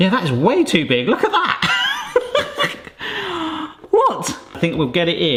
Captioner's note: laughing